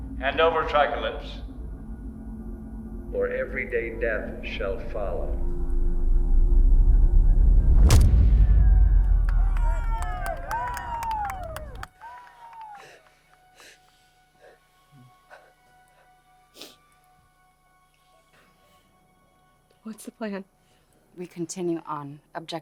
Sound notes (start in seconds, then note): 8.0 clanking; 8.9 cheering; 9.0 applauding; 13.9 crying